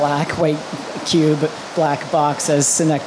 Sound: raining loudly

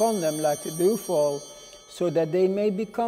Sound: bell ringing

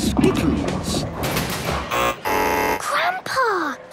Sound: buzzing

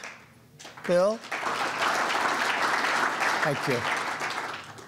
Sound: applause

